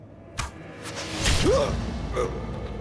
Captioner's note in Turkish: Ok sesi; Çığlık sesi